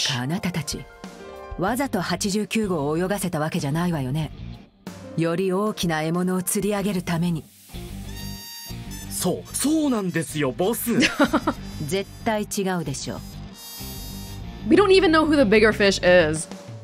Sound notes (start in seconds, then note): 10.9 chuckles